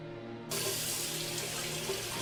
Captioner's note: water running